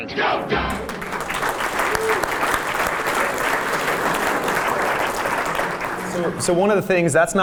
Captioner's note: applause